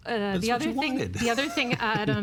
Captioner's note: laughing